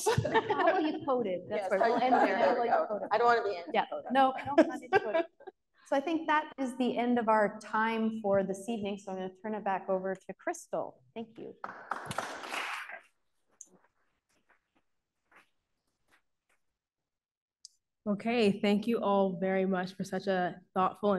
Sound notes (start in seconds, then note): 11.6 audience claps